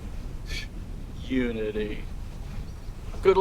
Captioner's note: scoffing